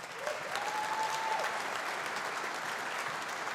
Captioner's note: audience applauding